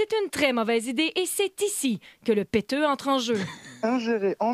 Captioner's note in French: rires